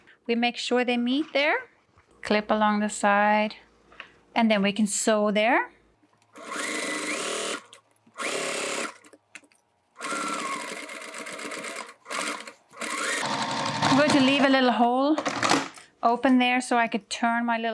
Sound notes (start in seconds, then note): 6.3 machine whirring